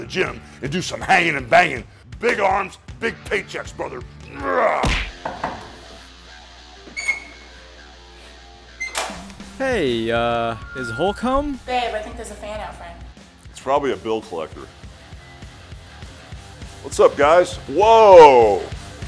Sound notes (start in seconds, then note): 4.8 fist smacking; 5.2 knocking